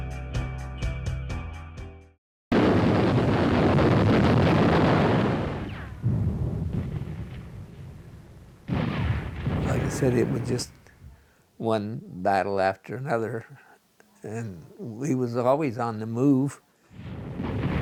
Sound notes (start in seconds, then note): 2.5 explosions